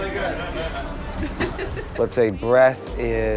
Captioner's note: passenger laugh